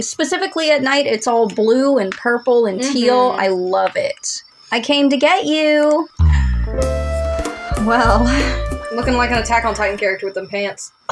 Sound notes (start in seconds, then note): 6.2 inhale; 6.2 romantic Music